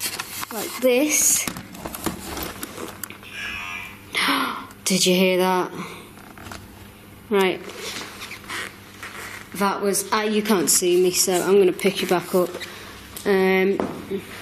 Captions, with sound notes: like this. (Ovilus buzzes) (gasps) Did you hear that? Right. That was, you can't see me so I'm gonna pick you back up.